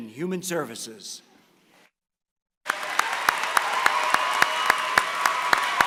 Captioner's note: applause